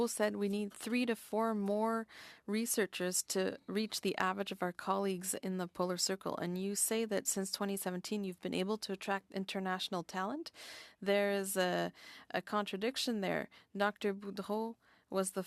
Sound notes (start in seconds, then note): 2.6 speaking French